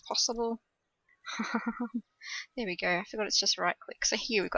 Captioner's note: laughs